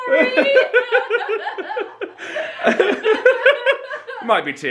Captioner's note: both laughing